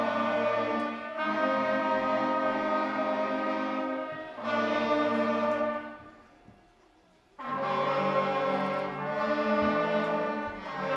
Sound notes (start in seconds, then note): none